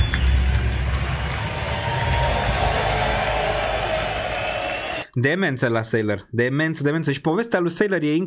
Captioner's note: applause